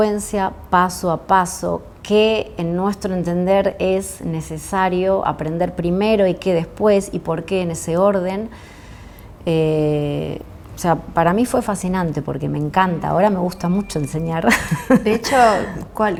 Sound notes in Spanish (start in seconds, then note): 14.4 risas